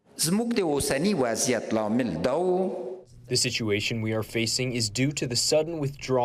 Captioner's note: through translator